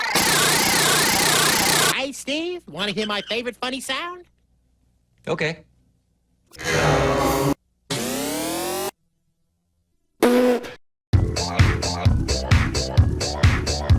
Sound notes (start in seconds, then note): 0.0 laugh oscillates in pitch and makes everything louder; 6.4 hella slowed down; 7.8 laugh buzzes and rises in pitch